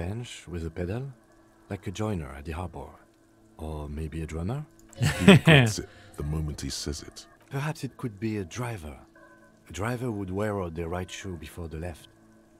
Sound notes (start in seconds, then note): 5.0 laughs